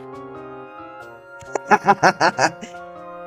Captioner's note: laughter